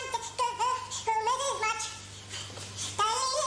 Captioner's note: humming